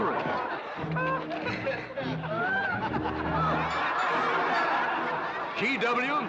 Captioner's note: crowd laughing